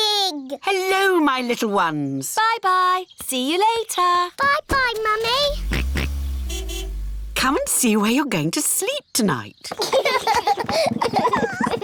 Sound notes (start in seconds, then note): 5.4 car horn honks; 5.8 george oinks; 9.7 children laugh